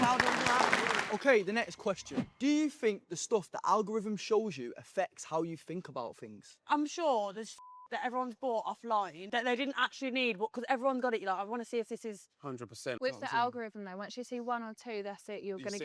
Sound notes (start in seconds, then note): 7.6 beep